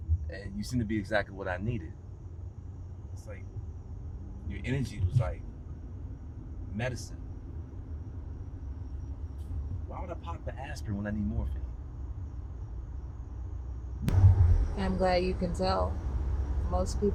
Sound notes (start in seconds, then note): none